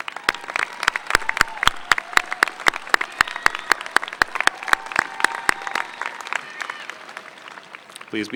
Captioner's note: applause